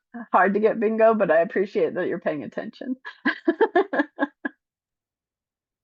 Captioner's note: laughs